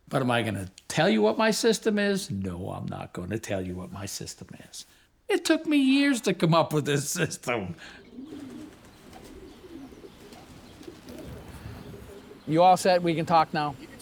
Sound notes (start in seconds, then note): 7.7 pigeons cooing; 8.1 wings fluttering